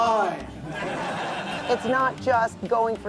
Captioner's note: group laughing